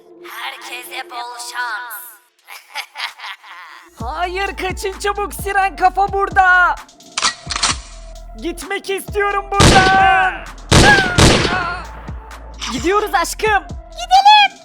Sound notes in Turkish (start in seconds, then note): 2.4 Gülme sesi